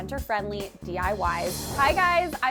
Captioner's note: whooshing